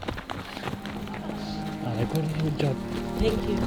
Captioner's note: running steps